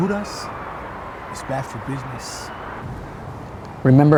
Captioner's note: speaks Spanish